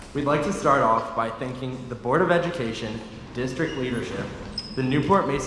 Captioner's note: none